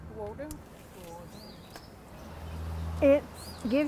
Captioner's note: women speaking in foreign language